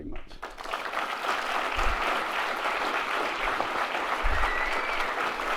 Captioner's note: audience applauds